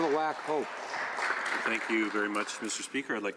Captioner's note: applause